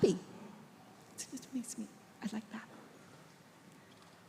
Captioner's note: speaking faintly